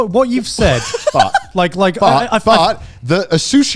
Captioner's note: laughing